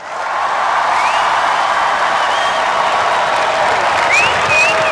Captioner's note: cheers, applause